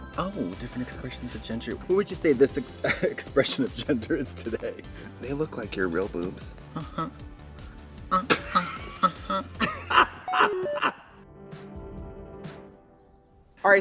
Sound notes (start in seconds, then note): 8.1 Katya laughs; 8.1 Trixie laughs; 11.4 gentle music